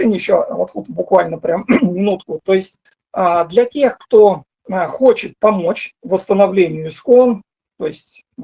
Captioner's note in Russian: откашливается